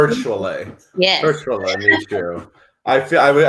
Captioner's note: laughs